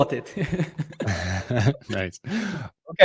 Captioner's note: laughter